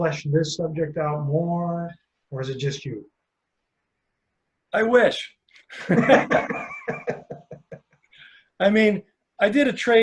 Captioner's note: laughter